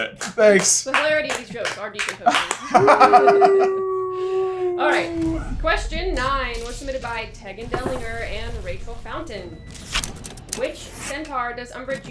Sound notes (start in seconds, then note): 0.0 background applause; 2.0 laughter